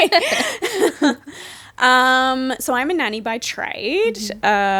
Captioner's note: laughing